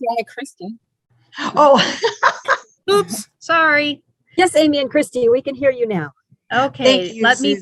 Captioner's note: laughing